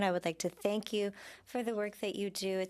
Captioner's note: speaking French